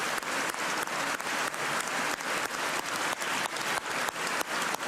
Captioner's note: cheers and applause